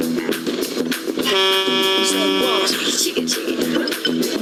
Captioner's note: horn blaring